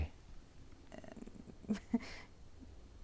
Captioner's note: Aquila laughs nervously